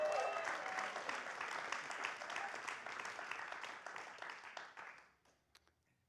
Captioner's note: applause